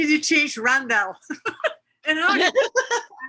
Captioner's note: laughing